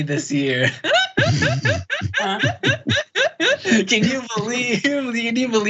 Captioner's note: laugh